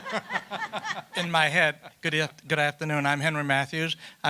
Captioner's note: laughter